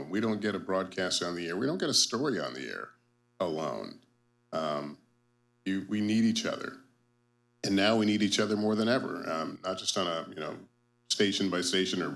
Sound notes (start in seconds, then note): none